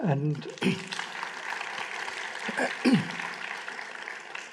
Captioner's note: applause